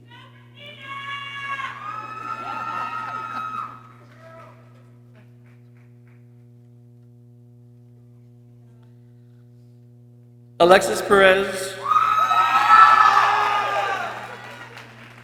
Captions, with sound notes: - Go, Christina! (people cheering) - Alexis Perez. (people cheering)